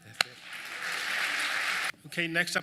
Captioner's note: audience clapping